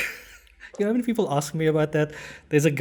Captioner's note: laugh